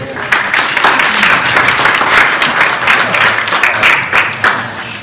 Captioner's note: audience claps